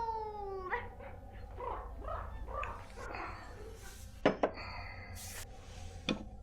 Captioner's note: Shirley imitating horse noises